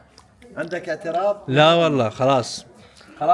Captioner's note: Arabic